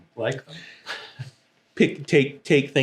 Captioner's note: laughing